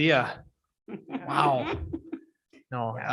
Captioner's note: people laughing